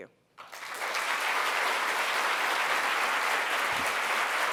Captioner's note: applause